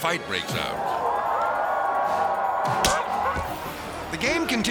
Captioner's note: crowd shouting